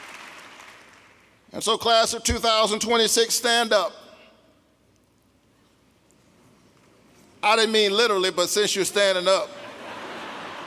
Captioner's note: applause